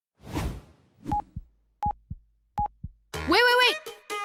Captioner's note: air whooshes